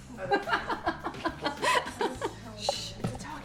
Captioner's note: laughing